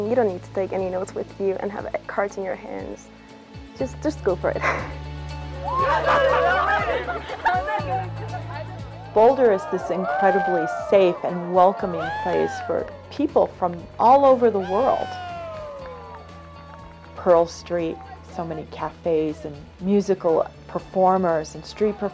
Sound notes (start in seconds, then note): 5.6 cheering; 5.7 laughing; 5.7 laughs; 8.9 cheering; 14.6 cheering continues